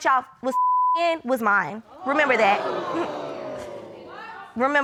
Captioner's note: audience exclaiming